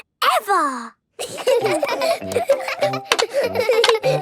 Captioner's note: laughter